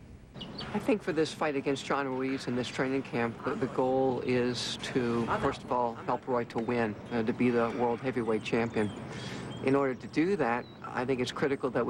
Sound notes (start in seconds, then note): none